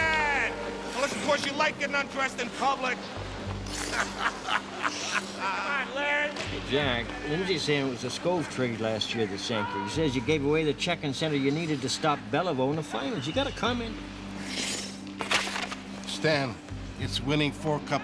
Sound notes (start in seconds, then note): 3.6 laughing